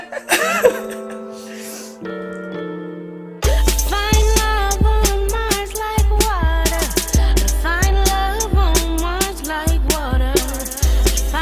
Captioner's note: laughter